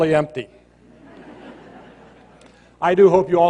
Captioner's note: laughter